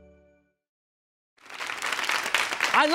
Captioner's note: audience applause